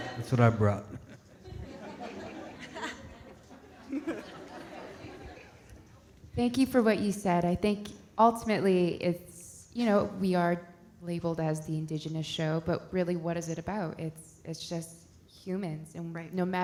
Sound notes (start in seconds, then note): 1.8 audience laughing